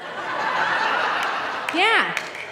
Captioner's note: audience laughing